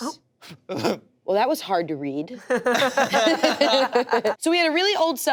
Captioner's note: laughter